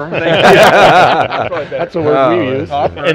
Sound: group laughing

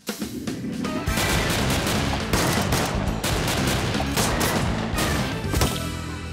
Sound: bang Bang Bang

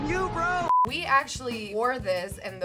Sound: beep

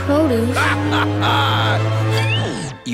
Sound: laughing

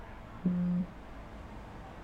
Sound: phone buzzes

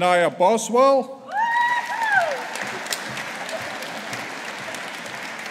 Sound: audience applauding

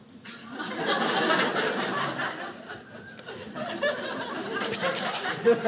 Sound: audience laughing

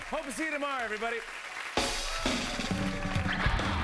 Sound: cheers and applause

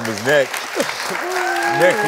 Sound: audience applauding

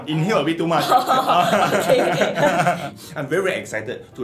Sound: laughs

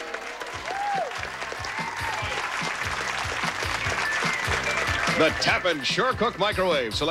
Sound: audience applauding

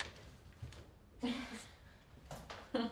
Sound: giggles

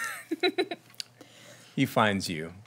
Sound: laughing

